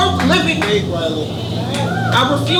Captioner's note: applauding